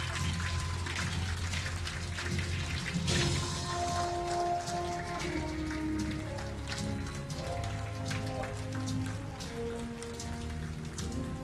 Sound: applause and Cheering

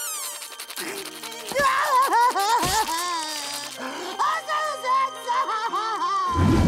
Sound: crying

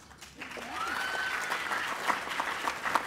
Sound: applause

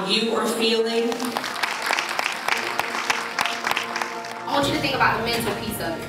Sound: applauding

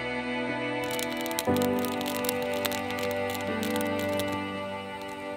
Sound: fire crackling

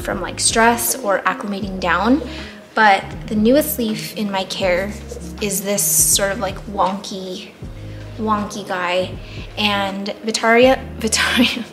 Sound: laughs

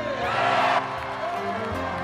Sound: audience cheers; soft jazz music continues to play

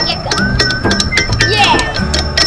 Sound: tools hammering

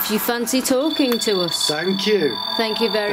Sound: sensor beeps

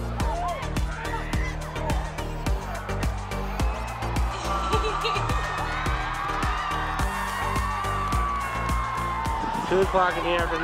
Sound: upbeat techno music; wild cheering

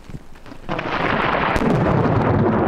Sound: thunder

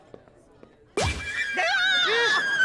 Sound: scratching, screaming

